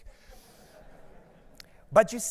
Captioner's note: audience laughs